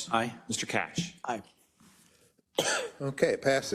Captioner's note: cough